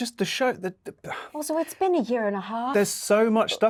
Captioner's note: Luke sighs